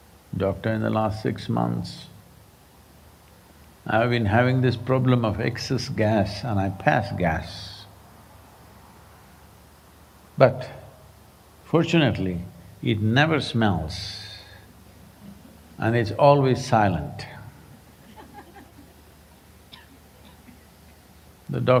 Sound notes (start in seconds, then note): 17.7 few laugh